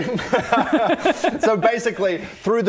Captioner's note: forgetful laughter